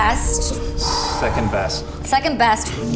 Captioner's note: loud exhale